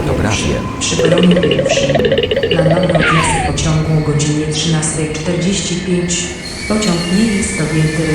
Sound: railway Station Announcement

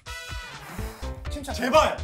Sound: exhaling

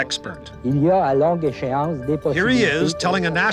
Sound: speaking French

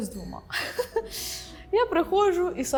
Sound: laughing

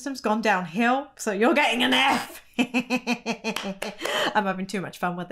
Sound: chuckles

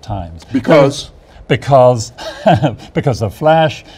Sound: laughs

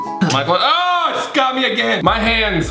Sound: upbeat music; screams

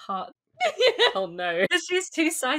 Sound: laughs

